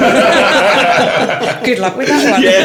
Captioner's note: laughing